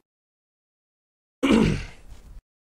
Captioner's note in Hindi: गला साफ करना